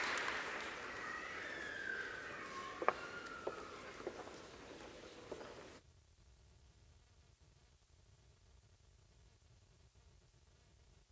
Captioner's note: applause